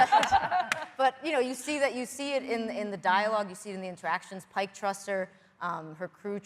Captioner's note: laughter